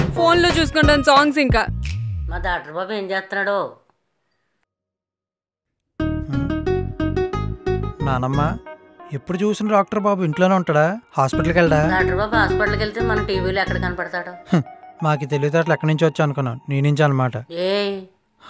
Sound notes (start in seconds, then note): 14.4 scoffs